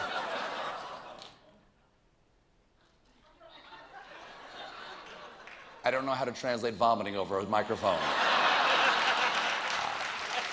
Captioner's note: laughter